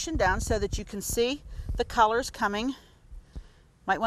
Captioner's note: none